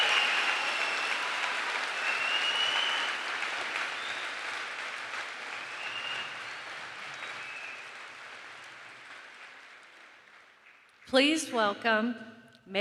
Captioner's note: cheering and applause